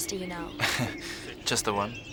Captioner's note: laughs